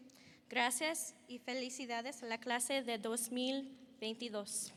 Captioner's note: speaking Spanish